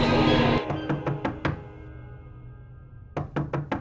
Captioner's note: knocking on door